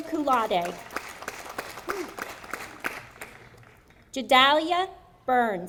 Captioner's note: audience applauding